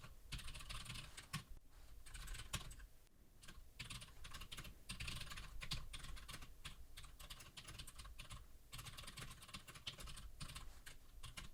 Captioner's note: typing sounds